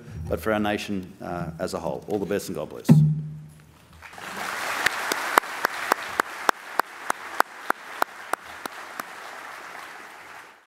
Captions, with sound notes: but for our nation as a whole. All the best, and God bless. [APPLAUSE]